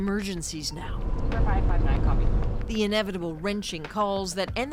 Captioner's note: sirens